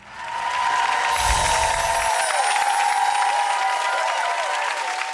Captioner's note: audience applauding